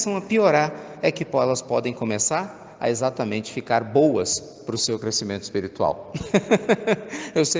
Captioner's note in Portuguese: risos